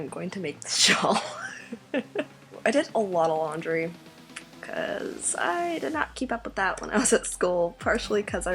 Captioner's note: laughs